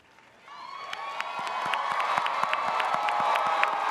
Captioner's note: audience cheers